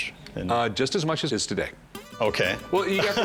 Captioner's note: laughs